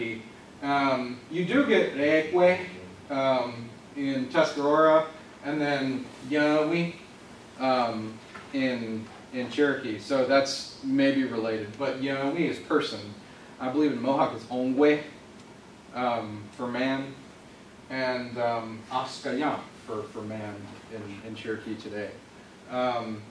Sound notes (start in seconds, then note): 2.4 word in Tuscarora; 11.8 speaks Native American Language; 15.8 word in Mohawk